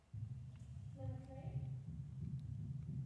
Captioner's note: non-english speech